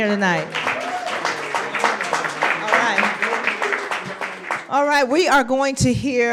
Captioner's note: applause